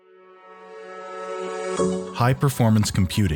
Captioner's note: voiceover